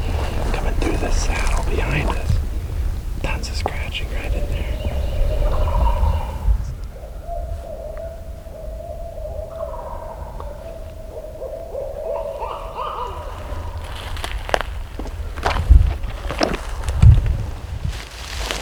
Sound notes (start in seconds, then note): 8.3 turkeys and owls going back and forth